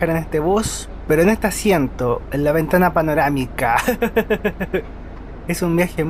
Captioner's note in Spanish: risas